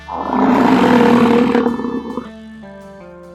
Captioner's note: bison roar